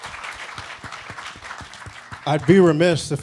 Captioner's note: applause